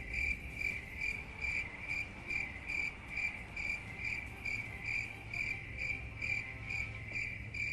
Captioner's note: crickets chirping